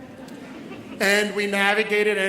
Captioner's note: audience laughs